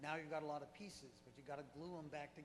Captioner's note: voiceover